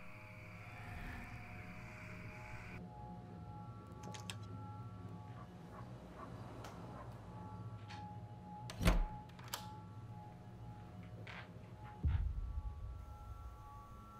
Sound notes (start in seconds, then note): 5.3 dogs barking